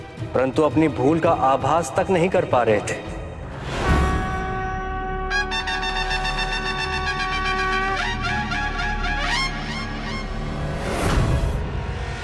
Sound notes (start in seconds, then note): 4.1 conch blows